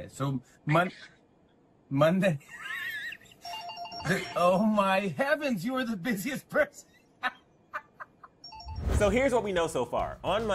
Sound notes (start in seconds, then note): 3.4 phone rings; 7.2 laughter